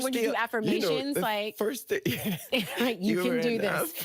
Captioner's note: laughing